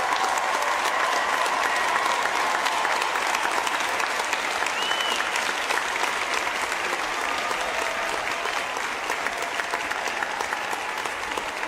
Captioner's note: applause